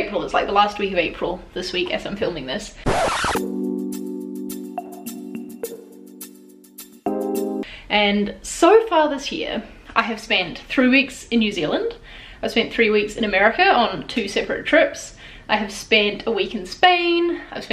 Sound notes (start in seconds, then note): 2.8 record scratch; 3.3 mellow jazz music